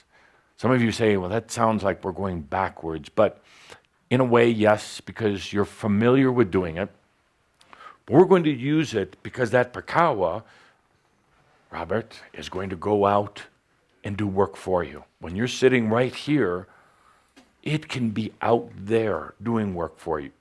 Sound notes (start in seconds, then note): none